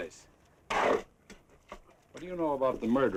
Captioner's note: shovel scrapes